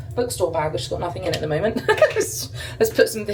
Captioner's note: laughs